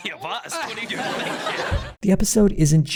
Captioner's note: audience laughter